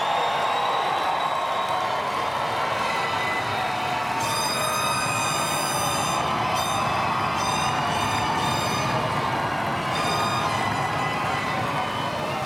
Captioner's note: cheers and Applause